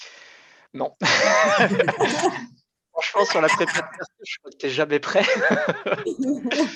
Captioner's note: laughs